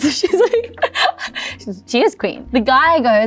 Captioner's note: laughs